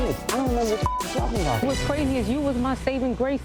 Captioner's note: beep